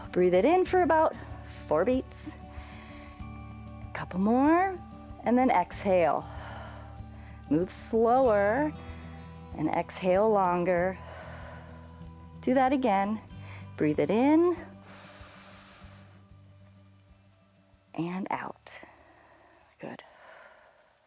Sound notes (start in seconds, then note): 6.2 exhales; 14.8 inhales